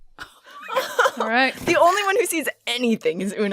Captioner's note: laughing